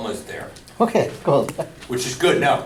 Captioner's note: voiceover